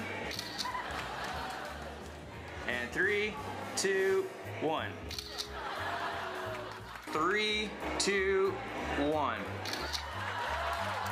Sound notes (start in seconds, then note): 0.3 camera shutter clicks; 5.1 camera shutter clicks; 9.5 cheers and applause; 9.6 camera shutter clicks